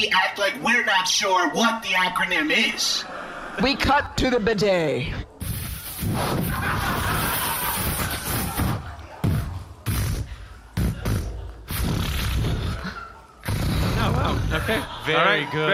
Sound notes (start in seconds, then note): 5.4 making spraying water noise, and farts